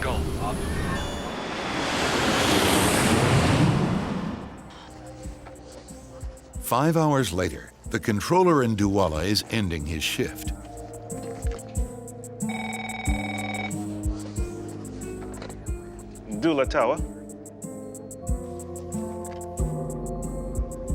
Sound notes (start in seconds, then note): 0.1 airplane engine roaring; 0.9 alarm beeping; 11.6 upbeat music; 12.4 phone ringing; 18.2 upbeat music